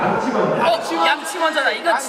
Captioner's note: all shout out brush first